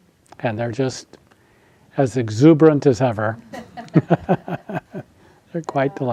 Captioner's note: laughs